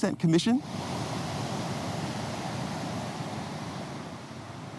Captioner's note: waves crashing